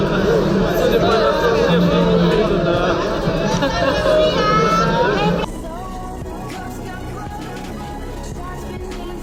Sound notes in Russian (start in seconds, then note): 5.3 смех